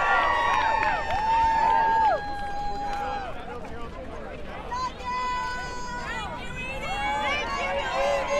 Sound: crowd Cheers

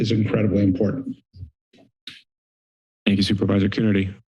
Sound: silence

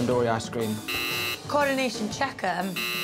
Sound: buzzer rings

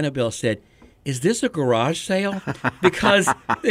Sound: friends laughing

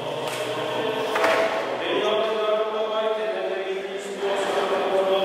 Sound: non-English praying

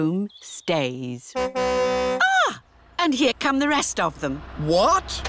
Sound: car horn tootles

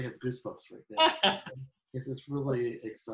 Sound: laughing

